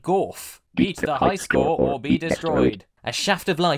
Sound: with a primitive speech synthesiser

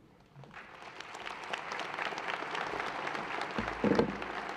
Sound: audience applauds

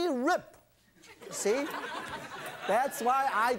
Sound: audience laughs

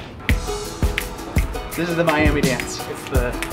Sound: tropical music; Rocky snapping

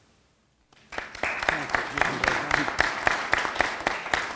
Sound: audience applauding

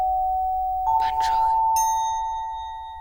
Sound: whispering

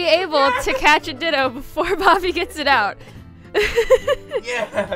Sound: cackling; laughs

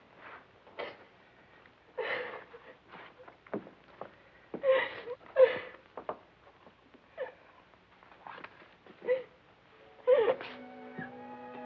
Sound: sniffling; crying

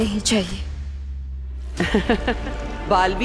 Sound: giggles

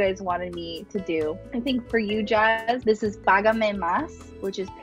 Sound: speaking Spanish

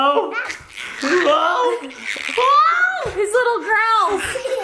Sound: baby noises

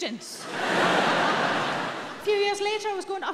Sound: audience laughing

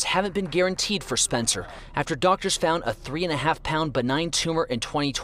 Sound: applause

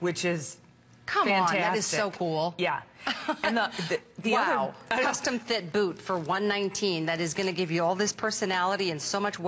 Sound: laughter

